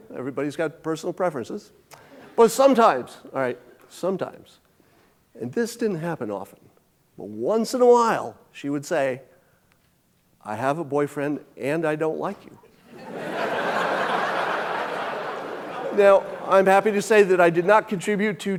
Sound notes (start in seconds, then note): 12.8 audience laughing